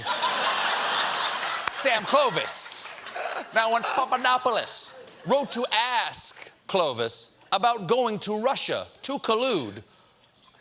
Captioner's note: laughter